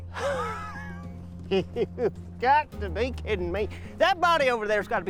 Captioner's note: scoffs